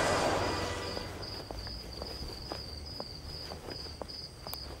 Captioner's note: Footsteps